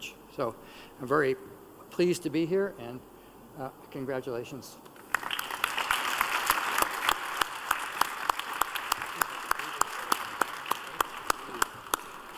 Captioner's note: applause